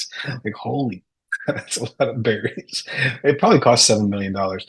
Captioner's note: chuckles